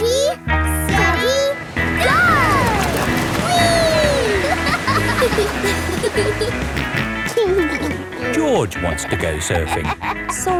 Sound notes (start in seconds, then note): 4.8 laughing; 7.1 snorts and giggles